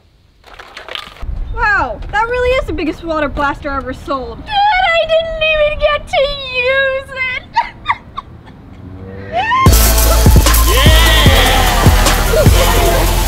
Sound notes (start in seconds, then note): 7.5 crying; 9.6 electro music